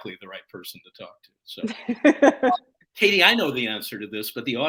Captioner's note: laughter